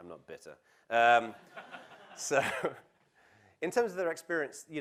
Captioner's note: laugh